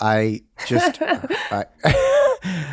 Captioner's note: laughing